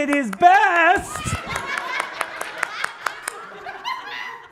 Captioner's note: audience laughs